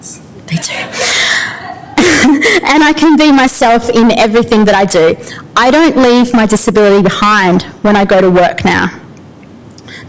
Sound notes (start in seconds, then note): 0.7 audience laughter